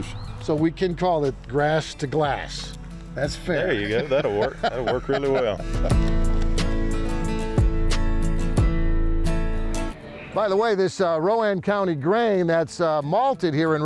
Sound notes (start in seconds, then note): 3.5 laughs; 5.9 gentle music